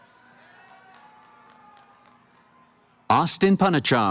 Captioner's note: cheering